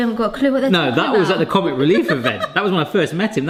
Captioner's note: laughing